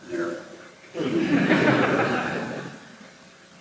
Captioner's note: laughter